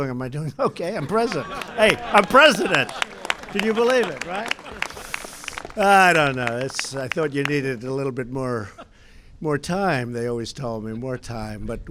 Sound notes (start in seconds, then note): 5.0 laughter; 5.6 applause